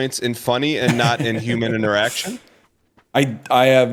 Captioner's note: laughing